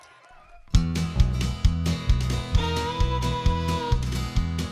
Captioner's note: cheers and Applause